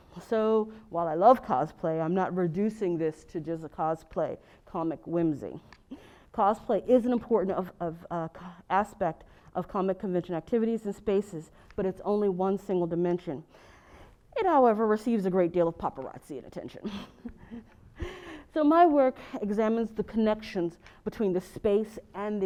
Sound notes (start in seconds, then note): 16.8 laugh